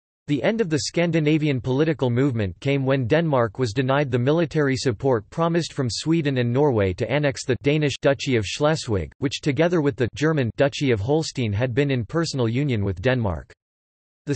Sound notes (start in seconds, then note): 7.5 Danish; 10.3 German